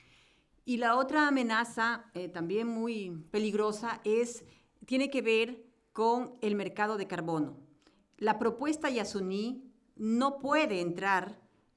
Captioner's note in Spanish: Español